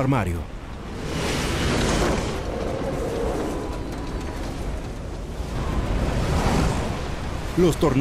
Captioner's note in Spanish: viento